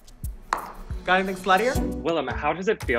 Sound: pops gum

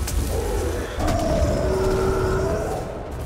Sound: howl

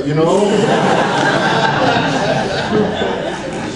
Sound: audience laughs

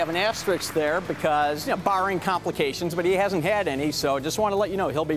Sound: applause

